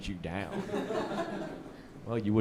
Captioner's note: audience laughing